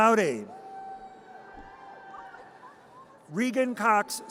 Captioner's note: audience cheers